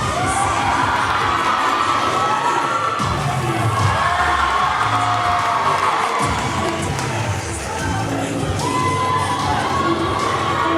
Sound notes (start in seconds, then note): 0.0 audience cheering; 4.5 cheer music playing